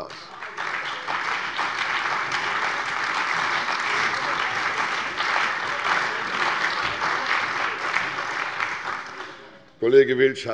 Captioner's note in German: Lebhafter Beifall bei der CDU, der SPD und dem BÜNDNIS 90/DIE GRÜNEN